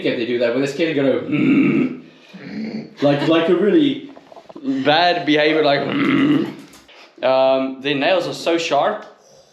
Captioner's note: deep groaning